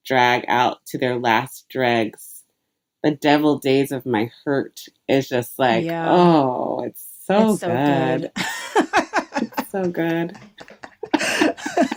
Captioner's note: laughter